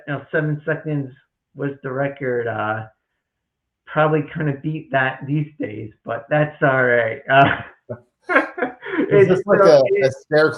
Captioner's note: chuckles to full on laughter